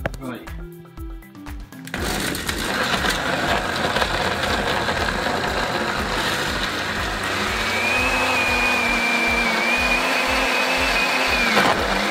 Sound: horrifying blender noises

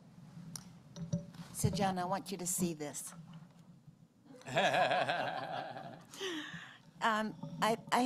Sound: laughter

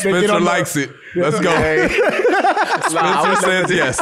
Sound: laughs

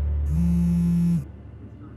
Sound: phone vibrates

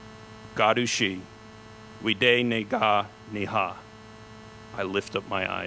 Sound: speaks Cherokee

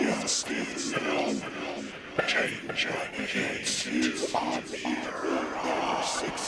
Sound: suggestive demonic hissing continues

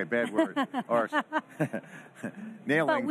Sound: laughing

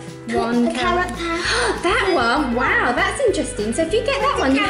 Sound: gasps

